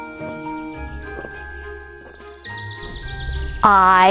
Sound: birds chirping

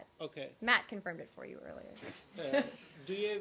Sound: laughter

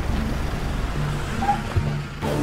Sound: vehicles Screeching

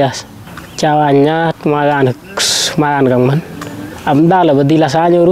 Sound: running

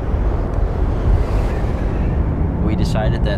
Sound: strong gusty wind blowing

